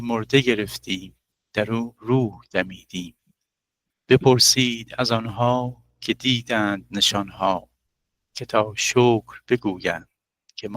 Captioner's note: recites Ghazal in Persian